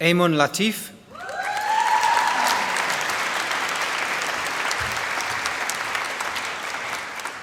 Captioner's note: applause